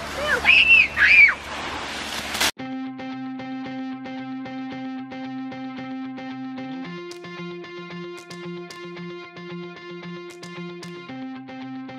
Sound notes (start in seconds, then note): 0.2 screaming; 3.1 upbeat music